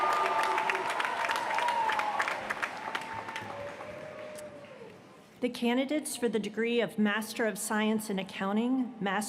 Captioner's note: cheers & applause